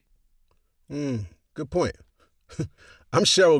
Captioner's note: chuckles